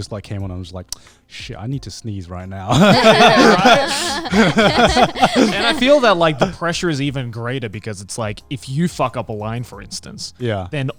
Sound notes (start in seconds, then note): 2.7 all laughing